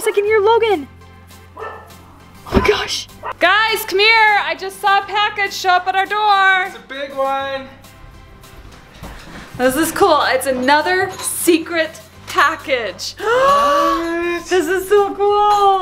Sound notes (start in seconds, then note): 1.5 dog barking; 13.2 gasps